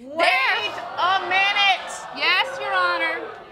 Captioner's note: audience exclaim